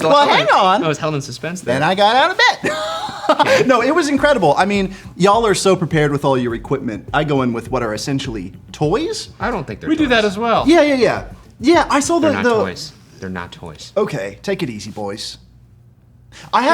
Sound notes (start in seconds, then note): 2.5 laughs